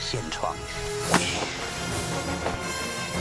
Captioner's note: face punch